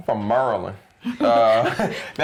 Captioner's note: laughter